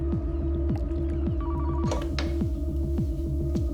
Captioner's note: telephone